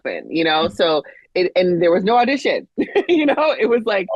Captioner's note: chuckles